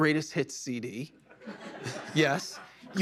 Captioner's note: laughter